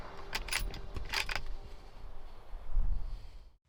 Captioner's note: gun fires; gun cocks